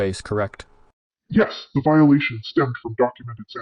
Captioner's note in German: verzerrt